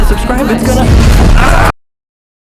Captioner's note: exploding; screams